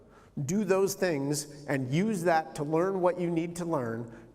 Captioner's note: none